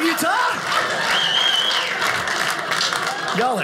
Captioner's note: audience laughing